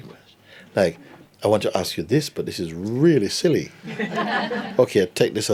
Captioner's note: laughter